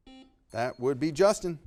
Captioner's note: buzzer beeping